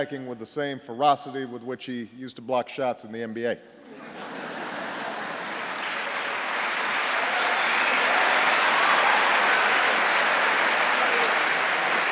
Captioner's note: laughter and applause